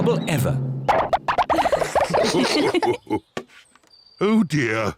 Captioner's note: all laugh